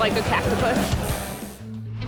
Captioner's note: tattoo needle buzzes